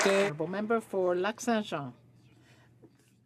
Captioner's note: some Applause